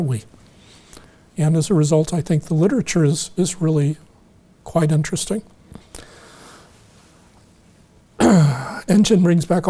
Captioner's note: clears throat